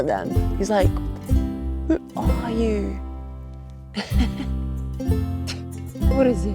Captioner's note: chuckles